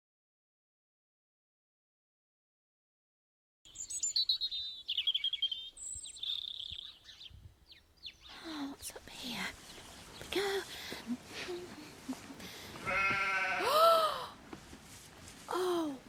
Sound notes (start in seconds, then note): 4.4 birdsong; 12.8 mist hums a tune, interrupted by loud 'baa'; 15.5 gasp